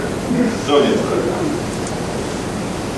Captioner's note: audience chuckling